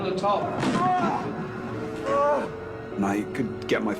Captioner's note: grunting